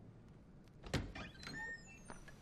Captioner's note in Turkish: Kapı sesi